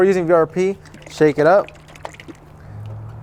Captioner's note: shakes bottle